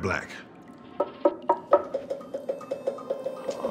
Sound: tapping

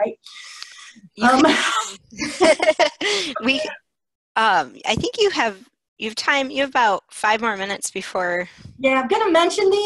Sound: laughter

